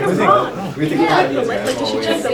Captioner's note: talking